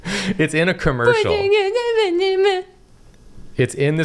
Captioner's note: humming mockyingly